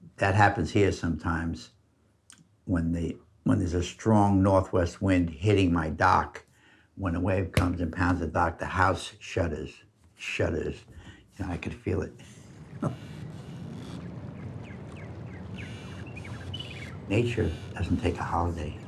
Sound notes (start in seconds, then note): 12.0 birds chirping; 12.1 dock creaking; 12.6 chuckles